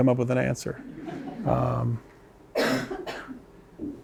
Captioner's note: laughter